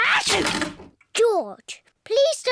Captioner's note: sneezes